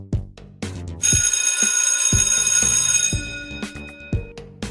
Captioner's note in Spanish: Suena la campana de Recreo